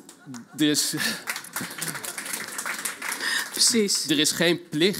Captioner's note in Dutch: Applaus